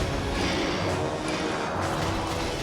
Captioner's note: drone ships whir